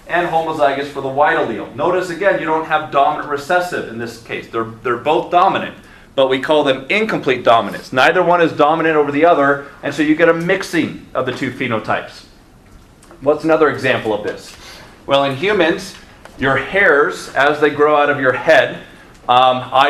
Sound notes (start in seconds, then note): none